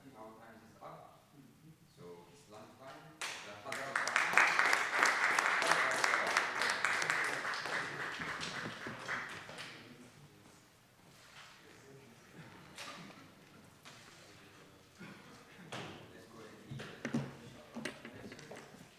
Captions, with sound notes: - I think our time is up, so it's lunchtime. (audience applauding)